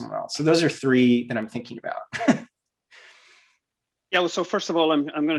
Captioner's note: giggles